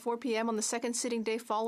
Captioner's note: speaking French